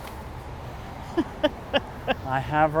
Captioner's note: laughs